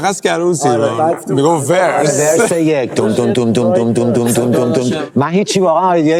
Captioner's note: imitates bass